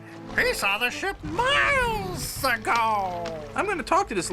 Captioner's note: ਸ਼ੇਰ ਗਰਜਦਾ